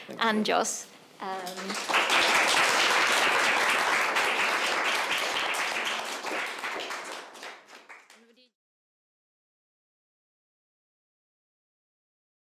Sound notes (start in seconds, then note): 1.4 audience applauding